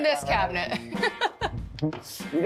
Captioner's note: laughs